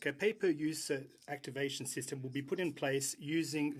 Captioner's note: speaking French